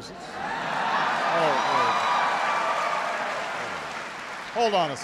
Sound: applause

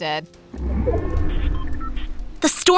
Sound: machines whirring

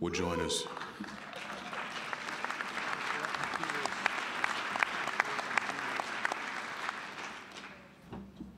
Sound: applause

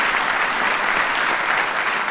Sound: applause

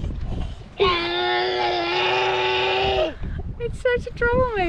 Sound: growls

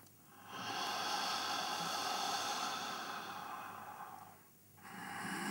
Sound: sound of inhalation - "Hhhhh"; sound of exhalation - "Hhhhh"; sound of inhalation - "Hhhhh"

